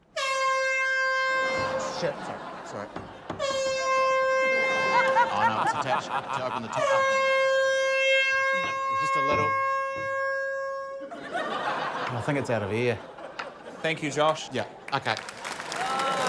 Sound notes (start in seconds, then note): 0.0 honk!; 6.8 honk!; 10.0 honk continues